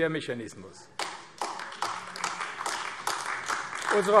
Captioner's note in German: Beifall AfD